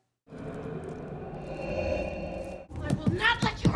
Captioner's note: ominous breathing